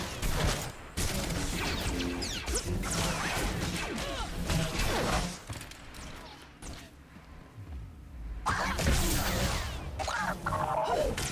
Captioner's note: gunshots